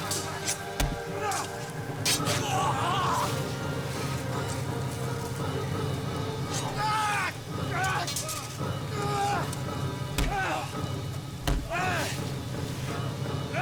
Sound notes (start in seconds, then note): 6.4 grunting